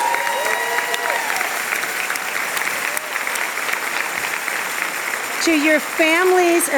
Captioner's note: applause and cheers